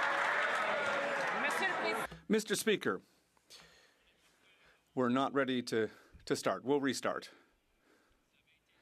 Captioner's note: some Applause